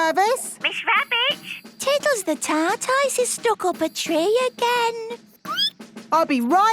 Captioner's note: squeaking